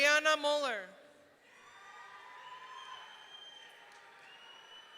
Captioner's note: audience cheering